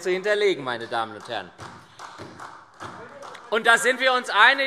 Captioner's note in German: Beifall SPD